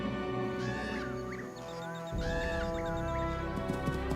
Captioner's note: cuervo graznando